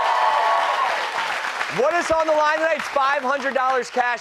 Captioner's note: cheers